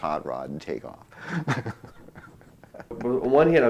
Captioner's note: laughter